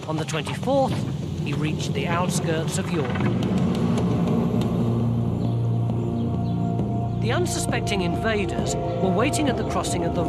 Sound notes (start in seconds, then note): 3.1 birds chirping; 3.1 suspenseful music